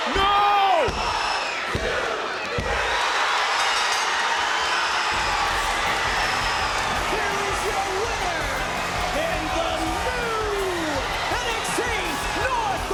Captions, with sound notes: No! One, two, three! (crowd cheers) (bell dings) Here is your winner, and the new NXT North American Champion,